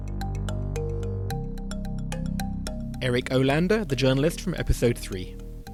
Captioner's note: voiceover